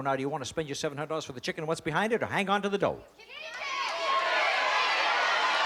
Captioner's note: cheering